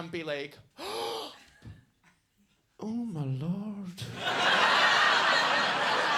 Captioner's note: gasps; audience laughing